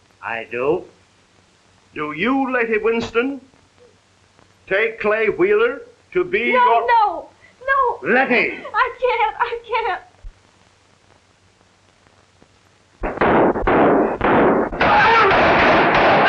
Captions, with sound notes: I do. Do you, Letty Winston, take Clay Wheeler to be yo-- No, no, no. Letty? I can't, I can't. (explosions imitating gunfire) (shouting)